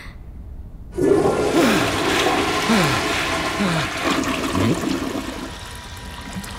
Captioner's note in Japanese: 水が流れる音